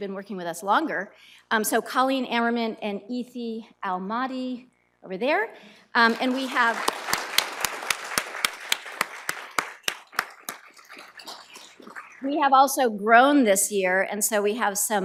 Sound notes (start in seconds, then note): 6.0 applause